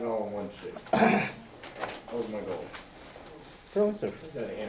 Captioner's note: clears throat